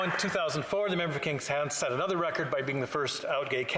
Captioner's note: applause